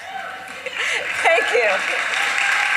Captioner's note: applause; laughter